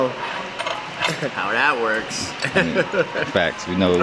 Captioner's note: laughter